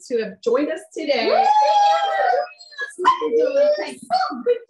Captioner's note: cheers